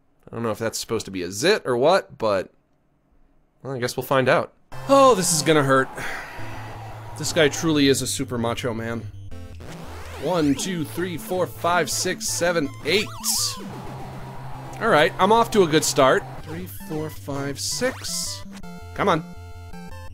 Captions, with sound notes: I don't know if that's supposed to be a zit, or what, but... Well, I guess we'll find out. Oh, this is gonna hurt. [ Sighs ] This guy truly is a super macho man. One, two, three, four, five, six, seven, eight. Alright, I'm off to a good start. Three, four, five, six. Come on.